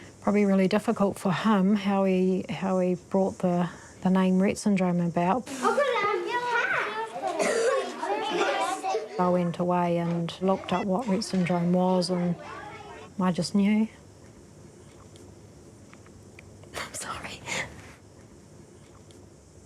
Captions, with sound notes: Probably really difficult for him how he brought the name 'Rett syndrome' about. (CHILDREN CHATTER) I went away and looked up what Rett syndrome was, and (VOICE TREMBLES) I just knew. Sorry.